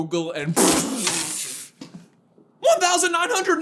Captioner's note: spit take